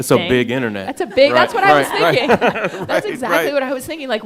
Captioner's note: all laughing